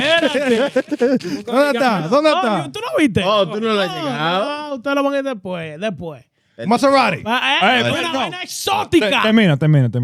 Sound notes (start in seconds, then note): 0.0 laughing; 1.2 speaking In Foreign Language